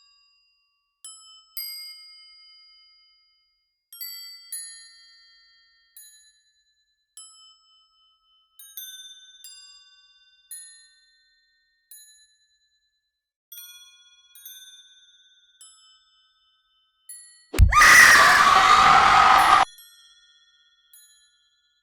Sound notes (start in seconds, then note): 17.5 growling; 17.5 screaming